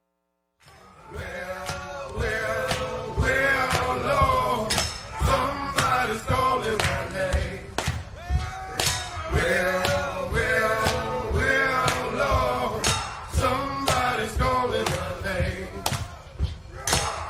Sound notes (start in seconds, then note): 2.8 applause